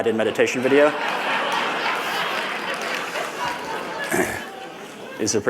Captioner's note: laughter